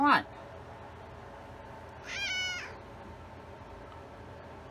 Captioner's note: Caprice meows angrily